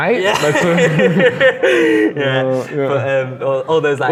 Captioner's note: laughs